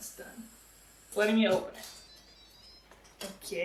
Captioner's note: instant pot sings